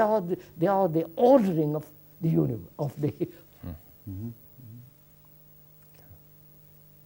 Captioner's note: laughs